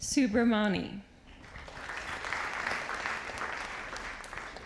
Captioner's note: audience applauding